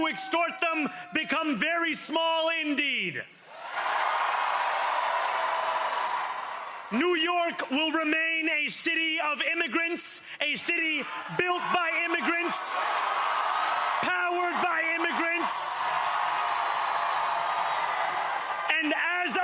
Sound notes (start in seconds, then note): 10.5 cheering